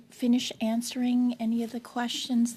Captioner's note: speaking French